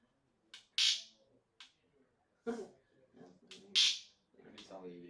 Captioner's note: zap